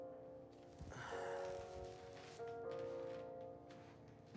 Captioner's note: Anders sighs